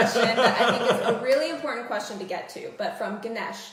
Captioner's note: laughter